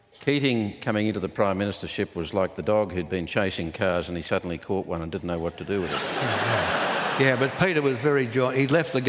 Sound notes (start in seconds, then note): 5.7 laughter